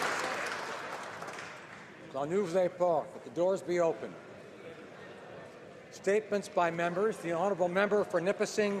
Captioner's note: applause